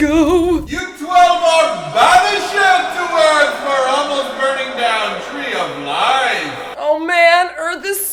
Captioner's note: godly boom voice